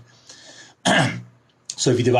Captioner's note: coughs